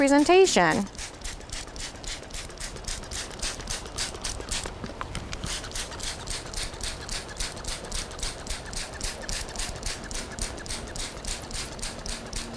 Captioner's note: spraying sounds